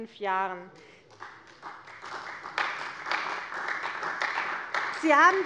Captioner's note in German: Beifall bei der CDU